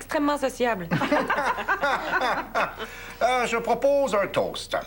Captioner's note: Rires